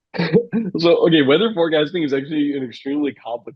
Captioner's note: laughs